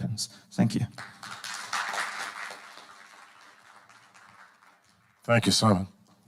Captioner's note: audience applauding